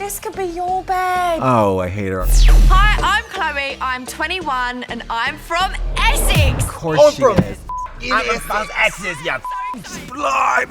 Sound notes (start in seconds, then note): 2.2 upbeat music; 7.3 beep